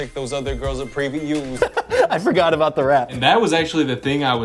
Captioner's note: laughs